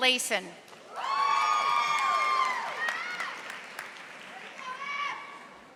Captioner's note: audience applauding